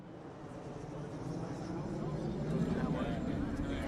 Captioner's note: indistinct chatter